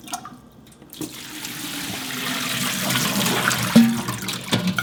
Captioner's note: water pouring